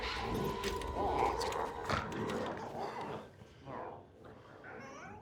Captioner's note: glowzies growling